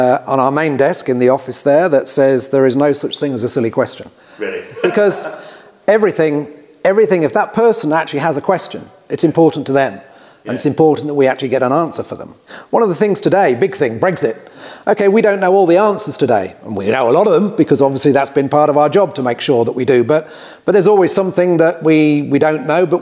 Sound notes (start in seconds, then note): 4.4 chuckles